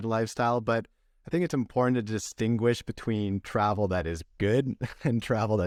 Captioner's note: laughter